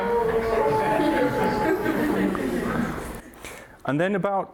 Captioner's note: crowd laughs